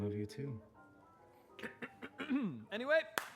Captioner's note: clears throat